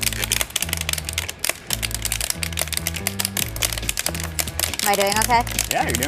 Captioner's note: popping noise